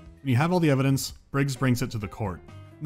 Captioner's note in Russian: none